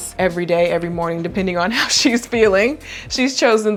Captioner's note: laughing